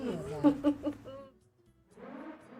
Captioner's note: both laugh